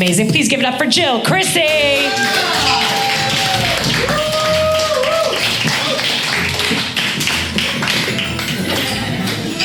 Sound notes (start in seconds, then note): 1.6 audience cheers and applauds